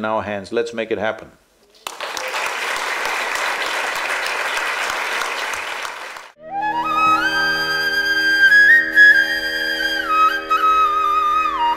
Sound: applause

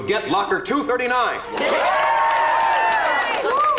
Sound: cheering

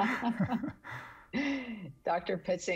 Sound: everybody laughing

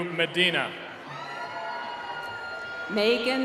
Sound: cheering

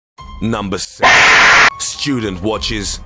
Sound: Half Life Stalker Scream

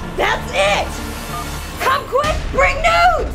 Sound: beep

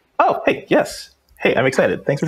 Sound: laughs

